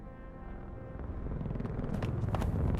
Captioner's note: helicopter approaching